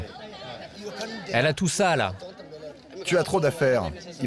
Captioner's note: people speaking foreign language